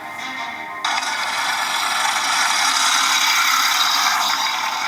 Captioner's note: mellow music; car engine roaring